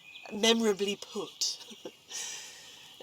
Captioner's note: chuckles